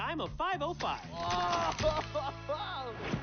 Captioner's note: groan